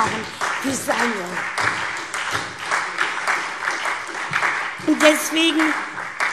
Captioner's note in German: Beifall SPD und Freie Demokraten